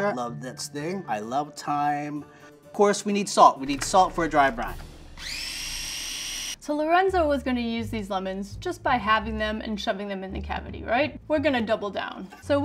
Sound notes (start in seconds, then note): 5.2 food processor whirs